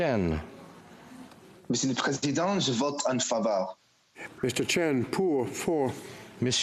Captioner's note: speaking FRENCH